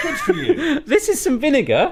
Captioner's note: laughs